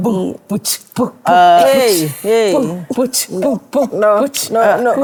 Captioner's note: upbeat beatbox